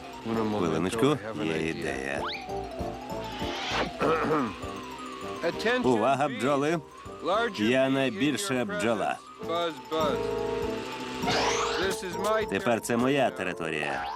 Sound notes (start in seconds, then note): 2.4 buzzing; 4.0 clearing throat